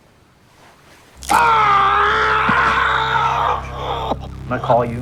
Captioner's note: screaming